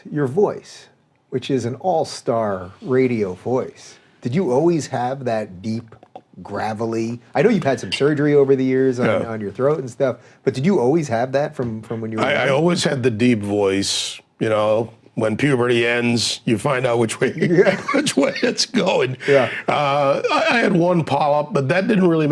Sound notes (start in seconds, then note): 17.2 laughing